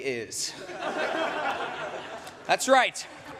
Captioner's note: laughter